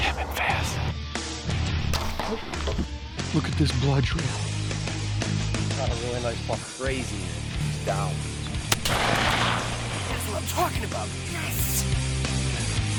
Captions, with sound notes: - They have been fast. - Look at this blood trail. - Caught a really nice buck. Crazy, that he's down. (gun shoots) - That's what I'm talking about, yes!